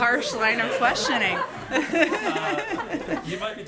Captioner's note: laughter